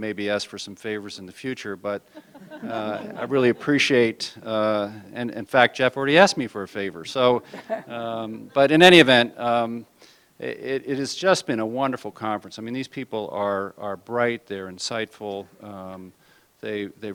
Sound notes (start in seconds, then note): 2.1 laughter